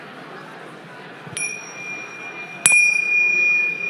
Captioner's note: bell ringing